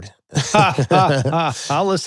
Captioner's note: both laughing